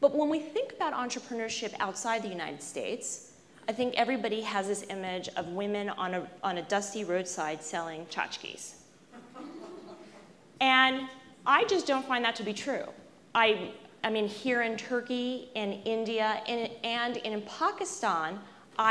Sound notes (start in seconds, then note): 9.1 laughs